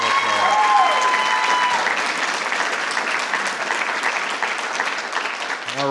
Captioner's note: audience cheering; audience applauding